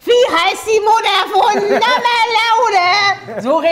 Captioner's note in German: schrill